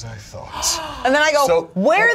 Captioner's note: gasps